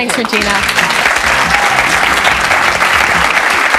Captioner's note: audience clapping